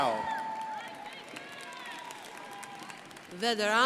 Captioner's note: crowd applauding